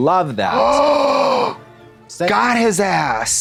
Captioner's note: Trixie gasps